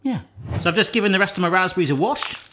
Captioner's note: air whooshing